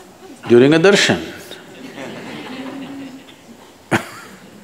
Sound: few laugh

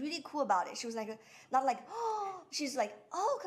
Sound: gasping

